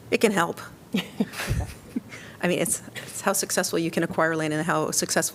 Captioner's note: laughter